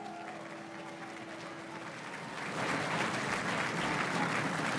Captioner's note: crowd cheering and applauding